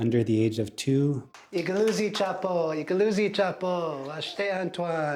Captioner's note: speaking Lakota